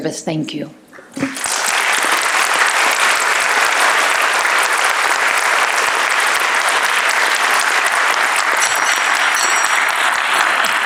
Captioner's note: applause